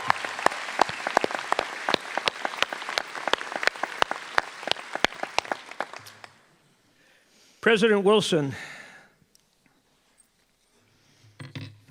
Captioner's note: cheers and applause